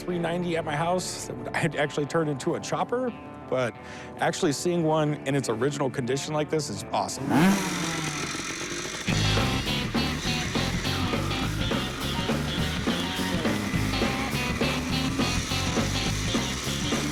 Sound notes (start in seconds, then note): 6.7 engine revving; 9.1 upbeat music